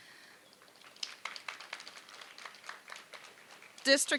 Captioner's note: applause